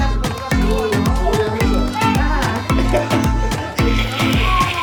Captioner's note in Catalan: rient